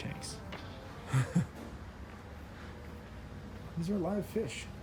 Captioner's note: laughs